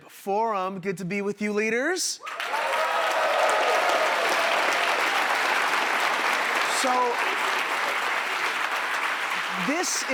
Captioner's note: applause